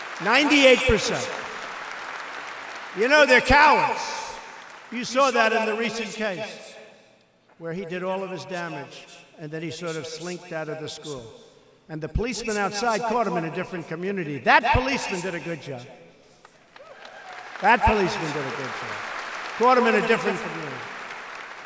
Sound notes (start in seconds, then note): 0.0 applause; 16.4 applause